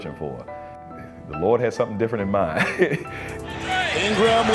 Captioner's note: chuckles